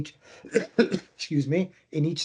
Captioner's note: coughing